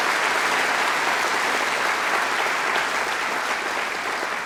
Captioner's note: applause